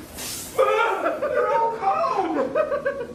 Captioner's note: laughs; screams